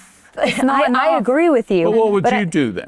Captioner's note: chuckles